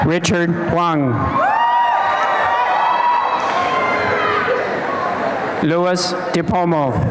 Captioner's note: applause and cheering